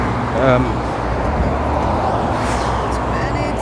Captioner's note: exhales